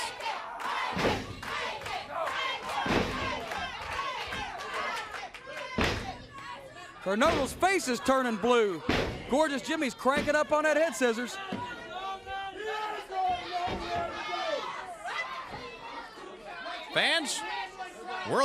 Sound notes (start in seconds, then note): 3.0 crowd cheering; 18.2 crowd chatter